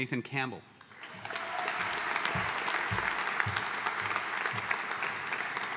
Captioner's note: audience applauding